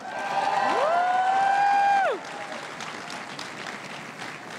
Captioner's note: everyone cheering and applauding